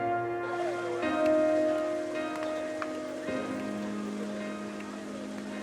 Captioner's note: bystanders chattering